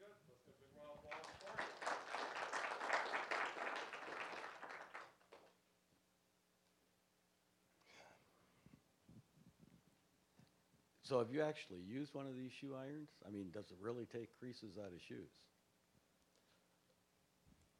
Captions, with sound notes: >> VERY GOOD-- LET'S GIVE A BIG ROUND OF APPLAUSE FOR HIM. (applause) >> SO, HAVE YOU ACTUALLY USED ONE OF THESE SHOE IRONS? I MEAN, DOES IT REALLY TAKE CREASES OUT OF SHOES?